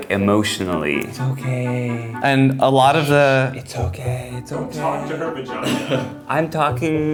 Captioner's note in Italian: con voce calmante